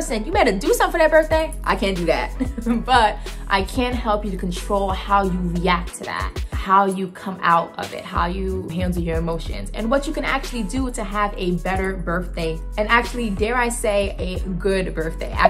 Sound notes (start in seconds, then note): 2.4 laughing